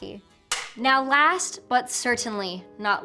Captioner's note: clapboard snapping